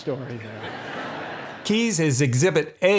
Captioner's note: audience laughing